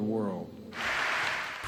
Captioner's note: applause